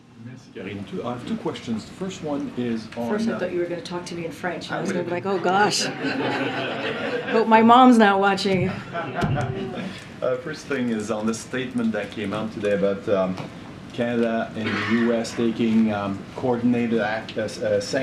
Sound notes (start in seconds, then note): 9.7 laughter